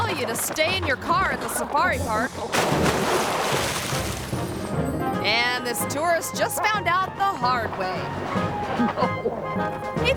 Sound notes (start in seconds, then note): 2.5 water splashing; 8.9 carefree music